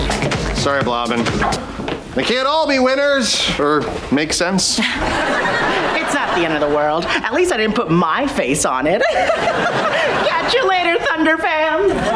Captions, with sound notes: Sorry, Blobbin. They can't all be winners or make sense. It's not the end of the world. At least I didn't put my face on it. [laughing] Catch ya later, Thunder fam.